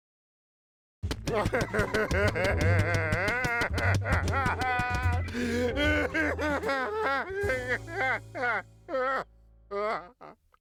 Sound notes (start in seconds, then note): 1.1 crying